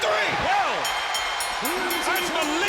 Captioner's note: bell dinging